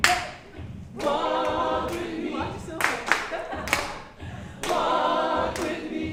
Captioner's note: girls giggling